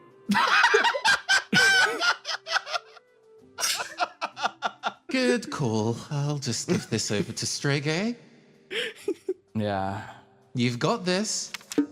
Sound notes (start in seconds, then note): 0.2 laugh; 3.6 laughx2